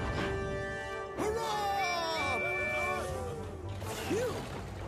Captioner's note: cheering